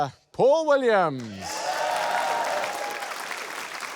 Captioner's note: cheering, applause